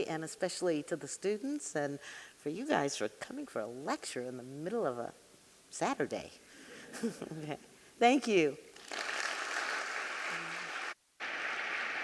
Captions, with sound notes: and especially to the students and for you guys for coming for a lecture in the middle of a Saturday. (audience laughing) (chuckling) Okay, thank you. (audience clapping)